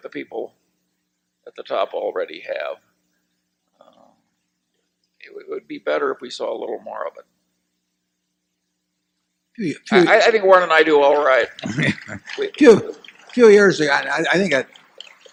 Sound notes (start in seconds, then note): 11.6 laughter and applause